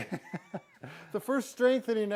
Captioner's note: chuckling